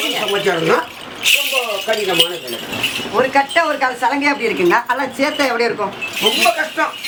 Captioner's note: ankle bells